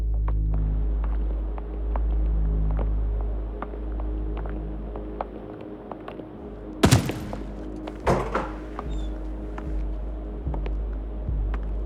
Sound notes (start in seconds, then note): 6.8 gunshot